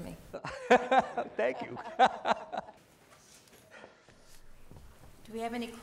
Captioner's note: laugh